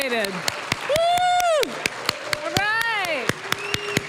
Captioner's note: applause; cheering, applause